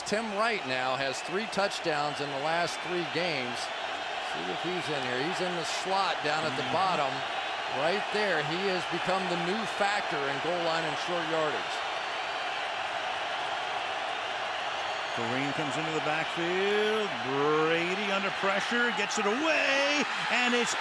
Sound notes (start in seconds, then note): 12.5 crowd cheering